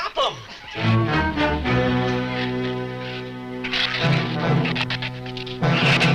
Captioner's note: shrews chatter; ominous orchestral music